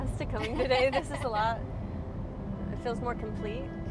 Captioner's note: laughs